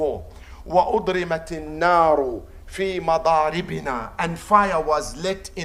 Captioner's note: Arabic